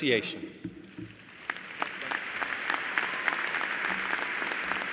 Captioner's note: applause